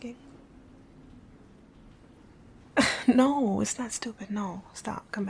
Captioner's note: laughing